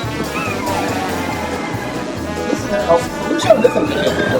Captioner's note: sled engine driving